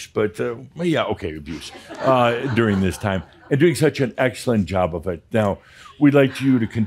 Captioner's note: some chuckles